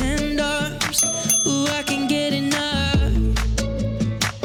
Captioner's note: ding ding!